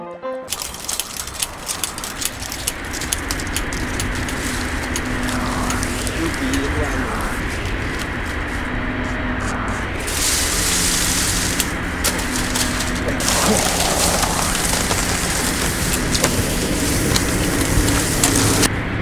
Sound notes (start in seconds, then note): 0.5 film reel clanking loudly; 3.9 air gusting loudly; 9.9 film rustling loudly; 14.6 keyboard clacking loudly; 18.8 film rustling loudly